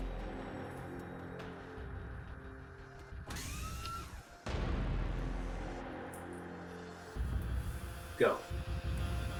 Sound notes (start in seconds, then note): 3.2 whirring